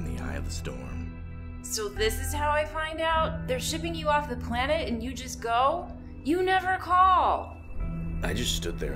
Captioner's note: crash